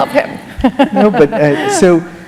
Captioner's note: laughter